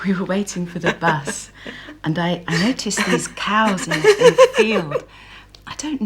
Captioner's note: gail laughs